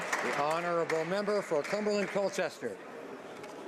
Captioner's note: some Applause